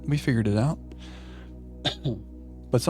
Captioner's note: coughing